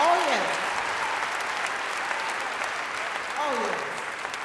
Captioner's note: audience applauding